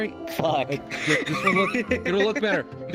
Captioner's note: laughing